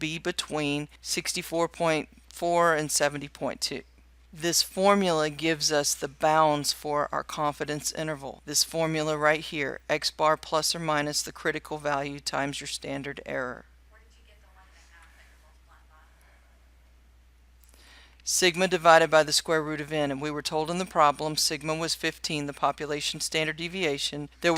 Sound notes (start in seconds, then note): 14.6 silent